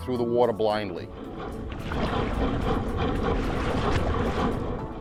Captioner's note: engine chugging